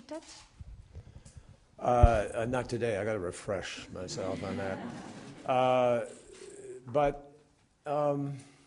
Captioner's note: laughter